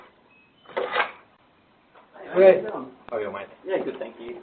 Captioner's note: lock sliding